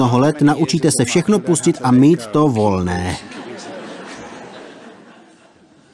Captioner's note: laughter